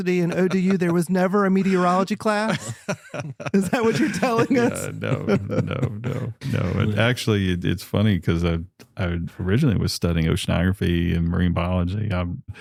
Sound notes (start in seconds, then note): 2.4 laughter